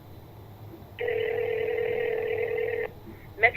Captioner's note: ringing